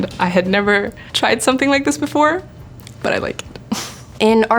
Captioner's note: laughing